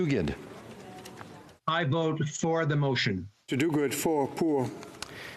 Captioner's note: speaking FRENCH